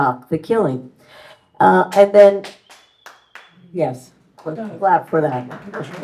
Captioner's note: audience member clapping